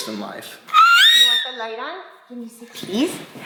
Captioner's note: vocalizing